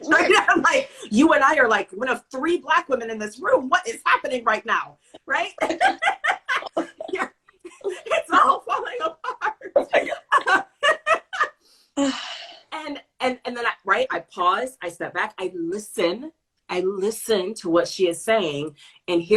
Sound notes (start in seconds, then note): 5.5 laughter